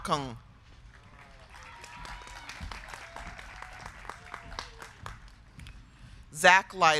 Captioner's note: crowd clapping; crowd cheering